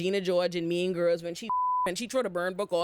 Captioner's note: beep